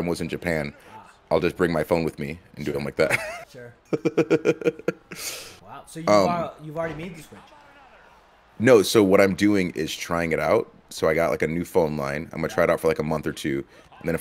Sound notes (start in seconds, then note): 3.8 laugh